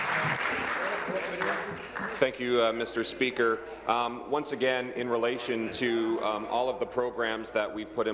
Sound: applause

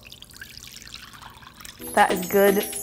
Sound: liquid pouring

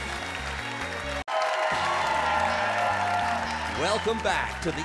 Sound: audience cheers and applauds

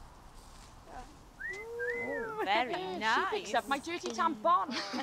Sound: wolf whistle

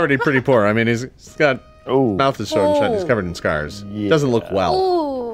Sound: murmurs

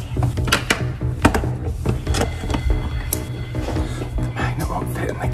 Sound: thuds and clanks

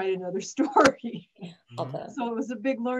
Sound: laughs

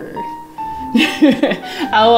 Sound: laughs

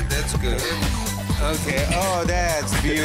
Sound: laughing

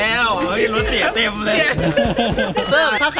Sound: pat; laughs

